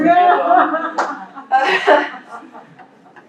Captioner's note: laughter